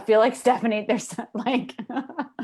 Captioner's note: laughs